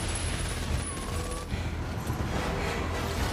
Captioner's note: breathing deeply